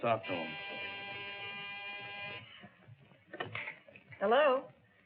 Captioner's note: phone buzzes